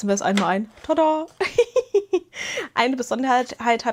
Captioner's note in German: Gelächter